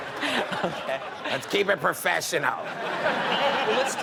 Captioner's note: audience laughs; audience laughing; laughing